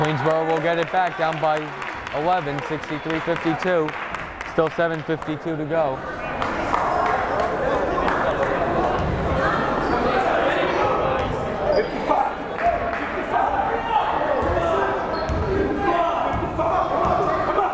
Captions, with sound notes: Queensborough will get it back down by 11, 63, 52. Still 7:52 to go. (chattering) (yelling)